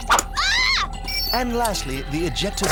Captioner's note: shrieks